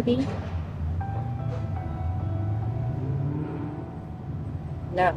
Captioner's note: car engine roaring